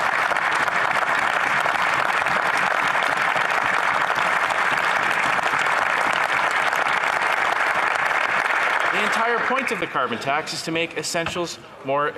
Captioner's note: some Applause